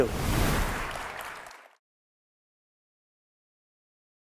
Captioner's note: audience applauds